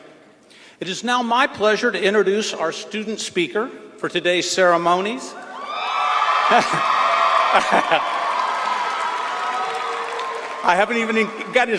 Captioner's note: applause